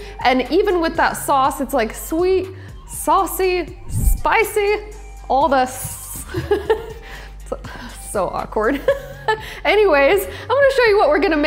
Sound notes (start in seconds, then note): 3.8 hisses; 7.3 laughs